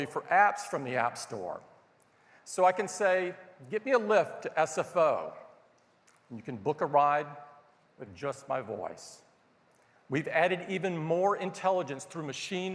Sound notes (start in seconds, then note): none